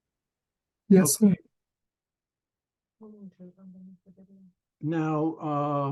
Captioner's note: indistinct conversations